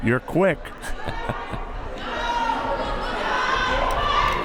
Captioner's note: laughs